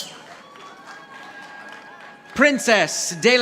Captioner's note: audience applauding